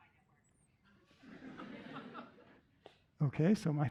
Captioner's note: laughter